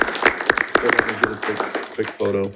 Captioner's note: participants applauding